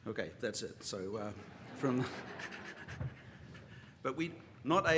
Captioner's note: laughter